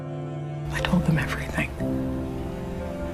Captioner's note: voiceover